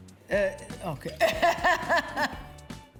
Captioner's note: laughs